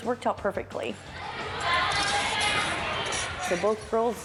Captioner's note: chattering